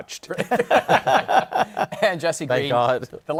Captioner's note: laughter